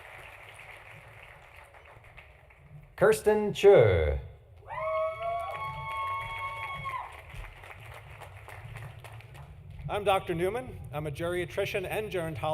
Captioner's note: applause